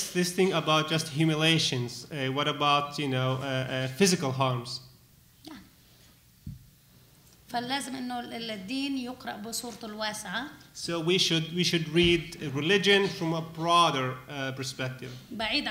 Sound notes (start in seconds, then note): 7.4 speaking arabic